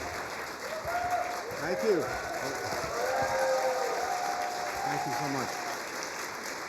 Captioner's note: cheers and applause